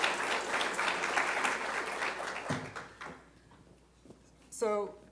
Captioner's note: applause